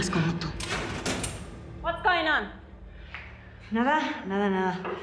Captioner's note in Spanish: ruido al abrir la puerta